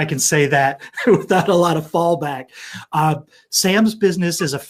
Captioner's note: laughs